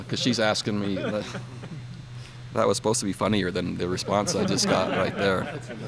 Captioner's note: laughter